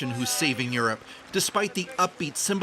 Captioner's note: foreign language